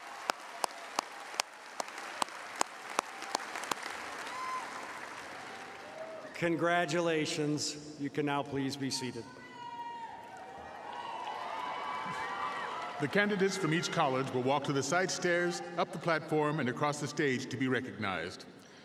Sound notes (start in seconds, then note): 2.6 applause